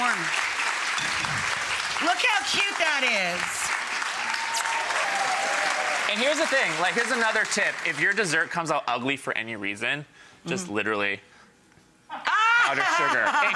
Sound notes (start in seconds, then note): 0.2 audience clapping; 3.8 audience cheering